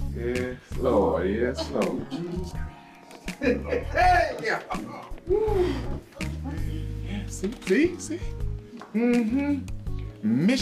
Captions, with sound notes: - Yes Lord, yes Lord. (chuckling) Heyyy (chuckling)! - Yeah, see, see, see, um hm. Mission accomplished!